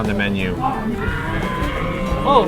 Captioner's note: dinosaur roaring noises as inhales his food